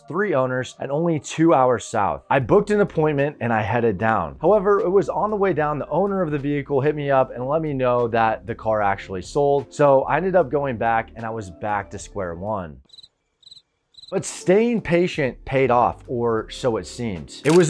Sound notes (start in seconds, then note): 3.0 upbeat music; 13.4 crickets chirping